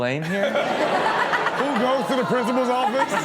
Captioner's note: all laughing